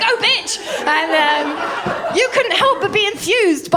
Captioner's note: laughter